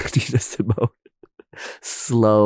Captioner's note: laughing